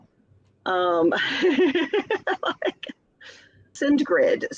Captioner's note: chuckles